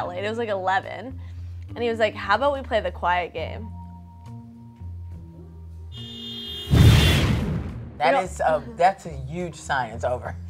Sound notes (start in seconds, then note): 5.9 car horn beeping; 6.7 explosion booms